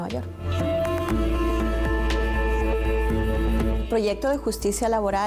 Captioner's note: Bocinazos